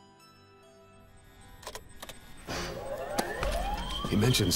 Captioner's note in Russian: звук сирен и приходящего в движение механизма